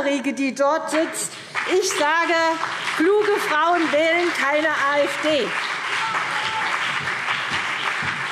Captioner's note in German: Vereinzelter Beifall CDU, BÜNDNIS 90/DIE GRÜNEN und SPD